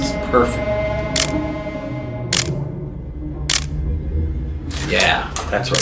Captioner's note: camera clicking